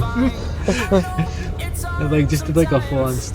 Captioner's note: laughter